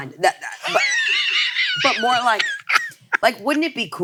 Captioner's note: wheezes